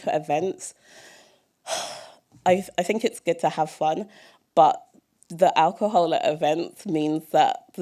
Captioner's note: sigh